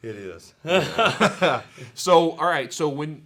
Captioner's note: both laugh